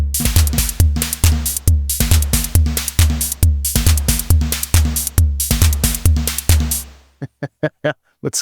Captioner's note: laughs